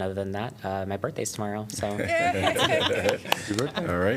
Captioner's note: laughter